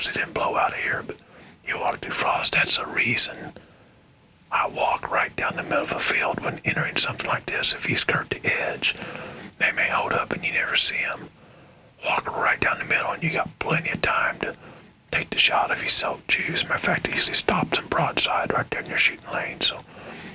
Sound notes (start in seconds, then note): 2.8 whispering